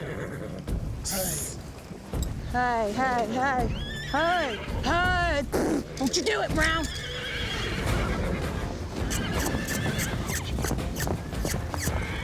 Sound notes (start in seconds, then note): 5.5 blows; 6.6 horses neighing